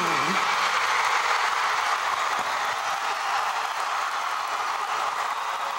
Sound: crowd cheering wildly

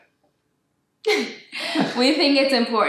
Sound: both laugh

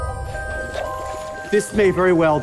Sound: low drum hit as the screen cuts to black; water bubbling

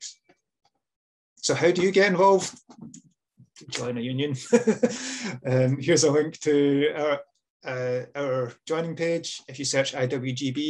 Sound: laughs

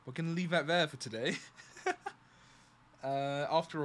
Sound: laughs

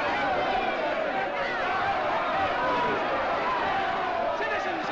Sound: crowd angrily clamoring and chanting "Guillotine!"; crowd angrily clamoring

